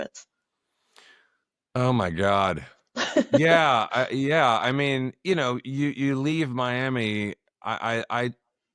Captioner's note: laughter